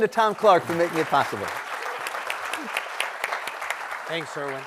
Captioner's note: applause